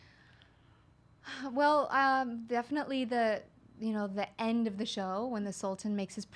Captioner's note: sighs